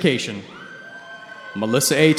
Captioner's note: cheering